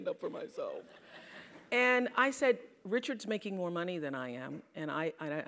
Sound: laugh

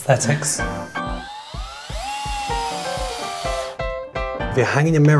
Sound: drilling noise

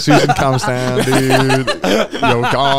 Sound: all laughing

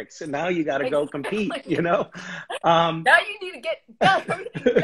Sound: laughs

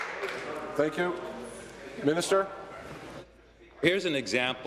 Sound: applause

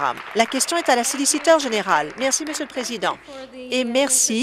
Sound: applause

